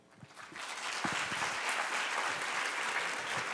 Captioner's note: clapping